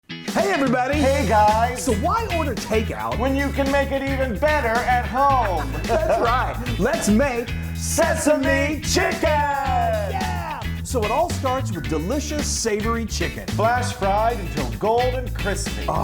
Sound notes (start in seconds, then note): 5.5 both laughing